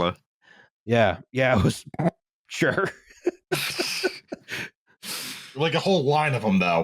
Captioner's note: laughter; suppressed laugh